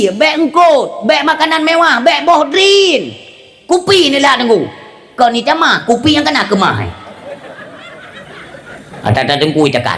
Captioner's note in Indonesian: tertawa